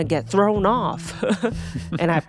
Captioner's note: Atsuko chuckling